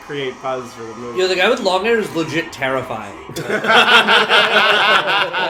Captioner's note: laughter